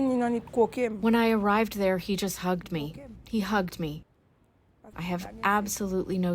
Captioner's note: through translator